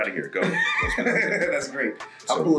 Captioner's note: laugh